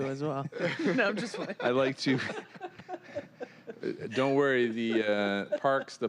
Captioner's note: laughter